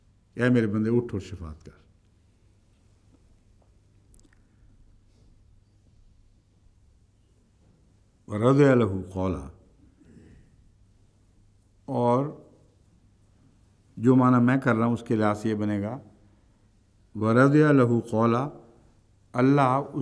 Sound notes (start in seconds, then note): 8.2 Arabic